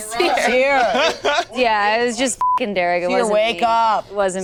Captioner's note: beep